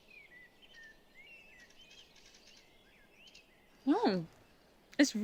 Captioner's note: birds chirping